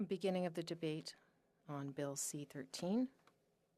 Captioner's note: speaking French